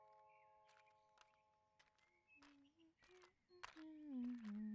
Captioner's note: birdsong, continuous; girl walks, hums